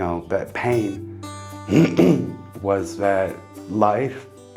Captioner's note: clears throat